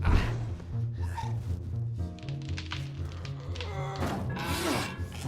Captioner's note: grunting; rope creaks